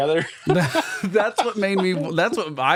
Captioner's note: laughing